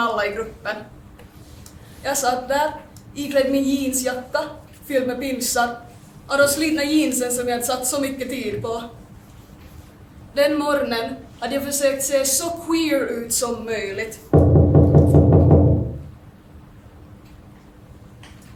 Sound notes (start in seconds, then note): 14.3 knocking sound